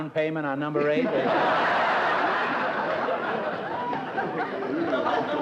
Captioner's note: laughter